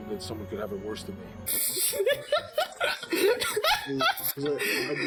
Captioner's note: laughs